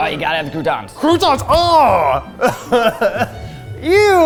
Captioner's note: laughs